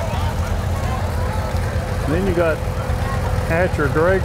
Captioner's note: revving continues